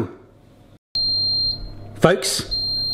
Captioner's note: oven beeping